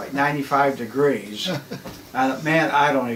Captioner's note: chuckles